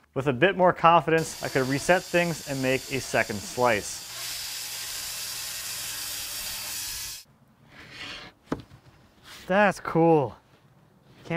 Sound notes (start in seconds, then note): 4.4 saw screeches